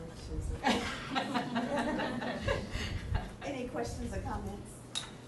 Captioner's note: laughing